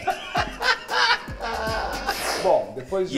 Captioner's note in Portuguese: risos